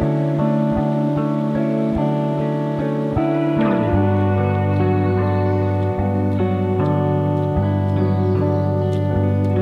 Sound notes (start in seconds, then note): 5.7 light footsteps